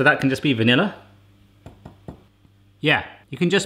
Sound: tapping

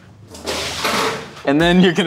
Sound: bowl crashes

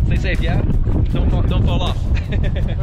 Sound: laughing

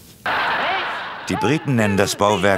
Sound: Lachen

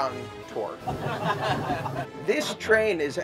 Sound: laughter

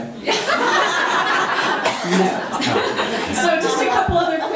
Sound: crowd laughing

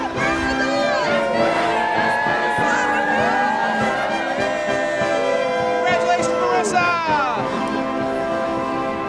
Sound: applause

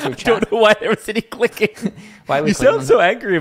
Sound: laughing

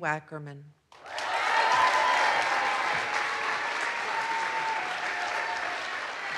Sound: audience applauds; audience cheers

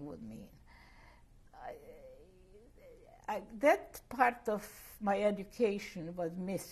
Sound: pauses for 3 seconds

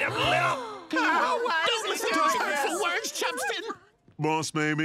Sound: clamoring

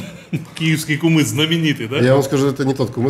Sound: laughs

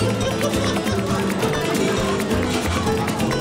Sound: voices, commotion

